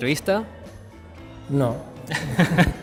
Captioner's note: laughs